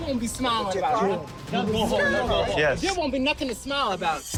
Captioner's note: overlapping chatter